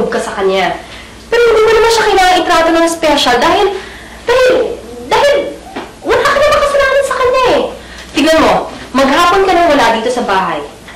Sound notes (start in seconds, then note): none